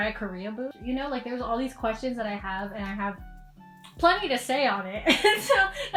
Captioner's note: laughs